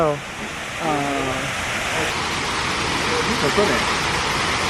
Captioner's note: water running